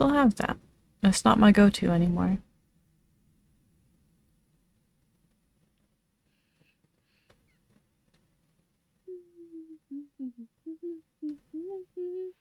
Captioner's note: humming; popping